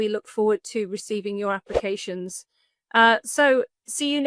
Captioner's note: graphic whooshes